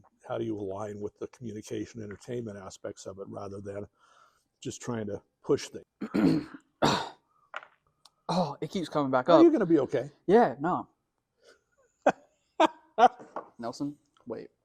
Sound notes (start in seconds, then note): 13.1 laughs